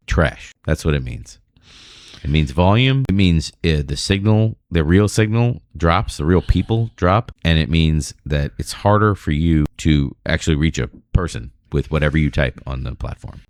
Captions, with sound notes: trash. That's what meanings. Volume. mean, is the signal. The real signal drops. Real people drop. And it. Means that it's harder for you to actually reach a [UH] person with whatever. type on the platform.